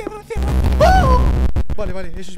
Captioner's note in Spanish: grito de señora